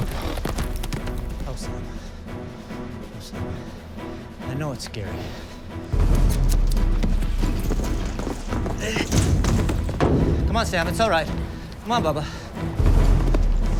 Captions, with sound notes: Ho, Sam. I know it's scary. (smacking lips) Come on, Sam, it's all right. Come on, Bubba.